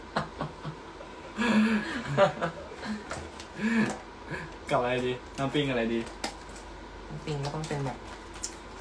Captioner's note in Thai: เสียงหัวเราะ